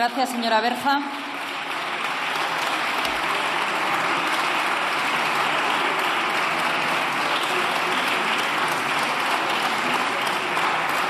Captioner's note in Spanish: Aplausos